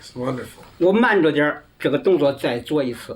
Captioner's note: non-english speech